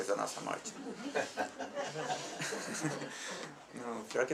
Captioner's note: laughs